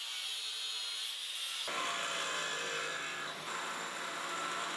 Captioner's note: sound of machines running